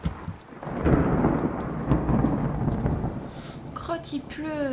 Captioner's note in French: bruit d'orage